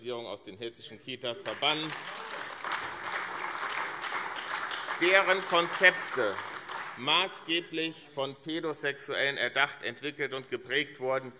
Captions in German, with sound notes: aus den hessischen Kitas verbannen, [Beifall AfD - Zurufe SPD und BÜNDNIS 90/DIE GRÜNEN] deren Konzepte maßgeblich von Pädosexuellen erdacht, entwickelt und geprägt wurden.